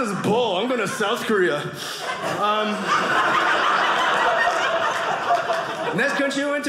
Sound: audience laughing

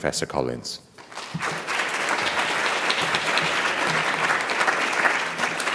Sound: audience applauding

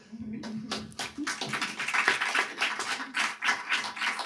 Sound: audience applauds

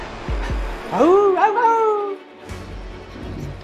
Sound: barking like a Dog

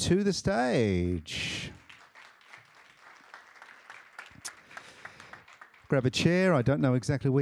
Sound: applause

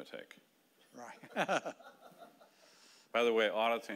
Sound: laughing

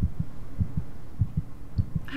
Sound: heart beating

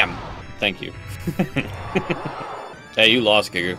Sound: laughing

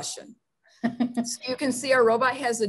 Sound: laughing

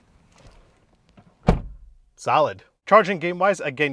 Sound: car door bangs softly

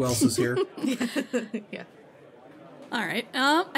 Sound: laughs

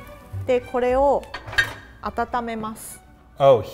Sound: speaks in foreign language

